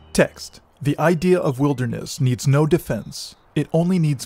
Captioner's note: birds chirping